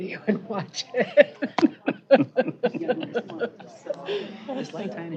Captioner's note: laughing